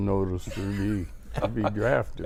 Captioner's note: laughing